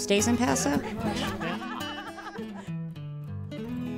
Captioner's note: laughing